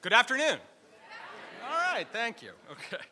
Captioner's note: audience replies